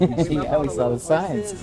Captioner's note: laughing